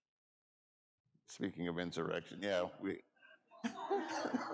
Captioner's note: laughs; audience laughing